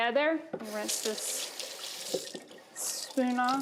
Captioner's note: water rushes